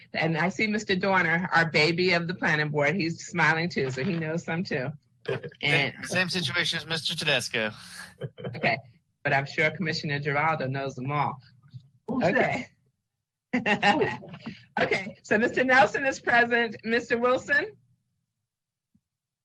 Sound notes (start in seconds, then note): 14.0 chuckles